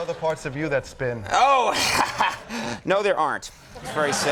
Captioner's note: laughing; audience chuckles